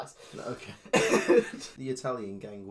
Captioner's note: laughs